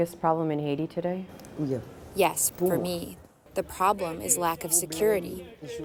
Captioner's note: through translator